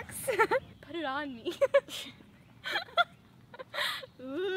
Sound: laughs

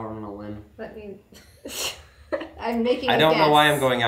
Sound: laughing

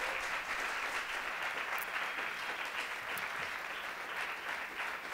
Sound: applause

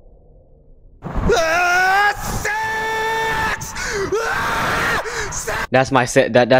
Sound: japanese man running down a tunnel screaming sex

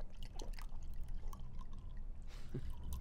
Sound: chuckles

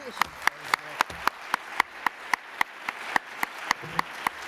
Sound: applause

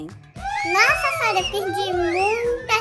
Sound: cheering

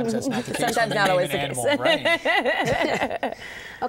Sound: laughter

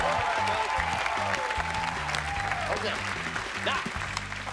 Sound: cheers and applause

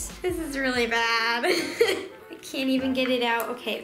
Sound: laughing

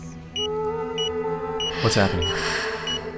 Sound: monitor Beeping

